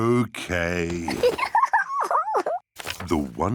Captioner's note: giggles